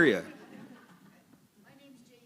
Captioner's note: laughter